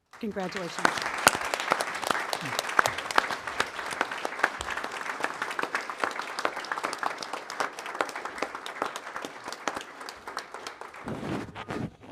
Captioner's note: applause